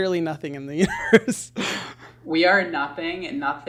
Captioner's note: laughs